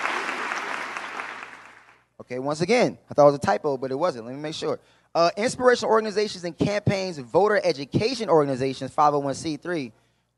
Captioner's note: applause